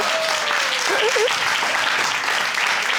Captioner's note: laughing